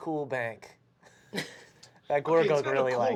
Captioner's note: laughter